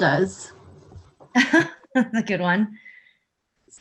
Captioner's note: chuckles